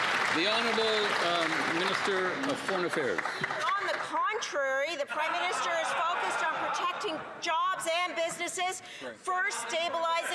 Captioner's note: cheers & Applause